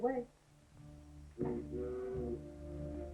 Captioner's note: fog horn blows